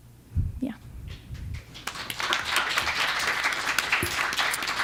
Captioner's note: applause